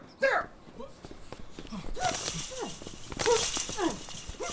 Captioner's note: grunting